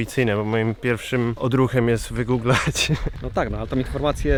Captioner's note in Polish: śmiech